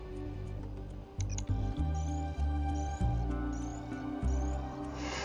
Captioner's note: computer clicks, image morph sound effects; Dexter sighs